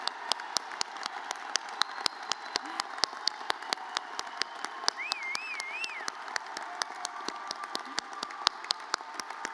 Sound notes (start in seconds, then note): 4.8 person whistles